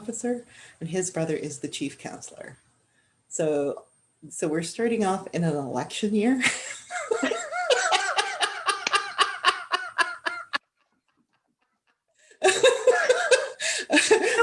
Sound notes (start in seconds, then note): 6.4 laughter